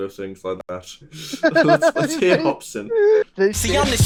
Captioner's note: laughter